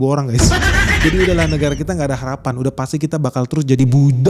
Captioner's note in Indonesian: tertawa